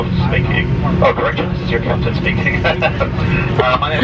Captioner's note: laughs